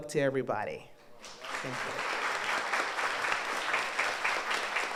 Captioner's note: audience applauds